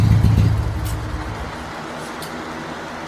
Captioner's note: engine shuts off